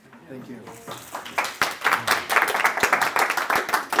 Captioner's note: clapping